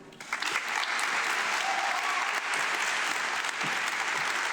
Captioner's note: audience clapping